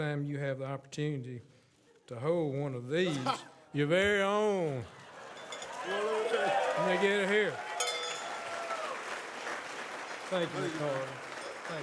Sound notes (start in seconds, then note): 5.6 audience cheers; 7.8 rings bell